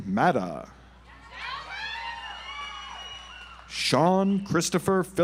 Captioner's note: audience applauds